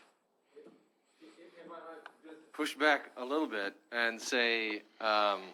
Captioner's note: faintly speaking